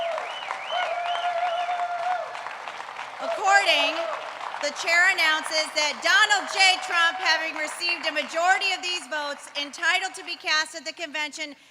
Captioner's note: applause